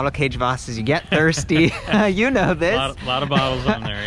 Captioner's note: laughing